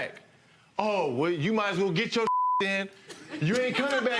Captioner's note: beep